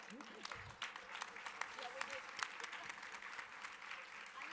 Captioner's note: audience applause